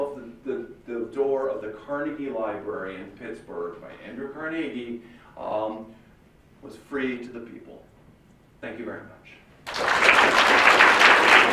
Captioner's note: applause